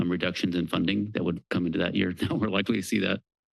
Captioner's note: chuckles